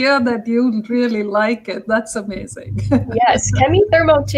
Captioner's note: laughter